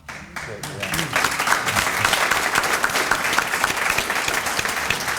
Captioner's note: audience applauding